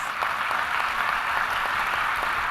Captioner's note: applause